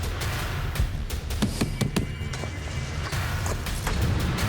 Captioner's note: thudding